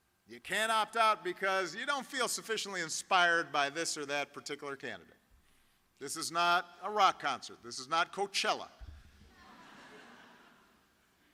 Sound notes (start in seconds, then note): 9.3 laughter